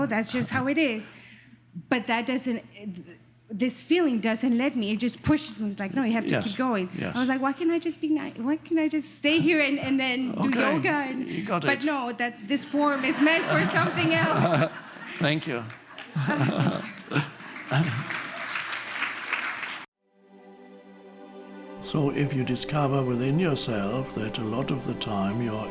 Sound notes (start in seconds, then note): 18.1 audiences clapping; 21.7 upbeat music